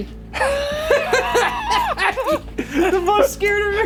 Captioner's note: both laughing